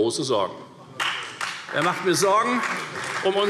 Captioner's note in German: Beifall Freie Demokraten und vereinzelt CDU